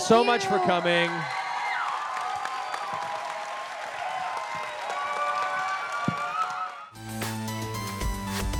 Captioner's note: cheering